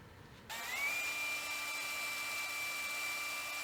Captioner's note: drill whirls